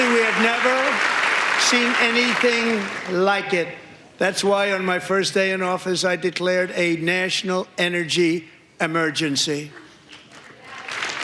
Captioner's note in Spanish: aplausos